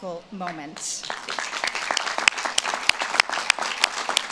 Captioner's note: audience claps